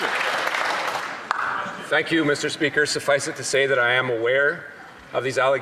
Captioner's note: some Applause